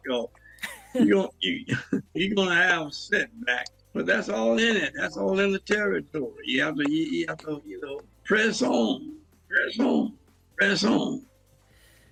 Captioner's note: laughs